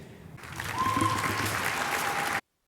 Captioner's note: cheers, applause